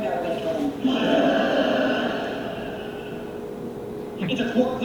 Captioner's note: studio audience laughing